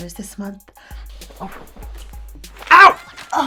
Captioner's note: Miss Luna hisses